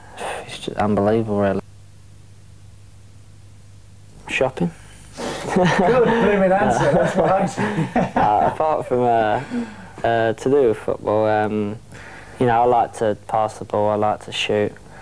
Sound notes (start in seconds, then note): 5.2 laughs